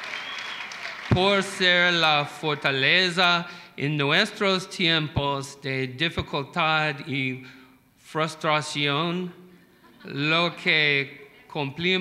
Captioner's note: applause; speaking spanish